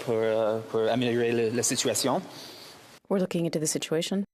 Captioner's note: speaking french